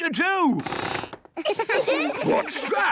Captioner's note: squeaks